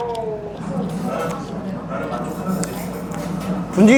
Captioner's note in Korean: 쩝 쩝 쩝